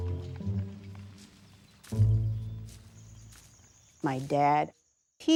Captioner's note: footsteps crunching